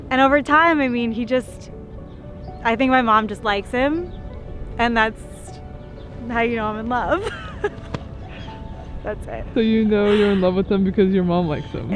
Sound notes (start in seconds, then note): 7.2 laughing; 7.8 hand slapping